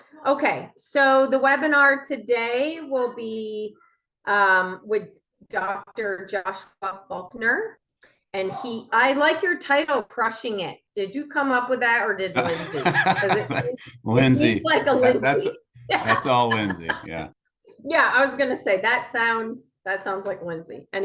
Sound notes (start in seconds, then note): 12.3 laughs; 15.8 laughs